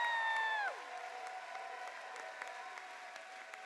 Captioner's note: cheers and applause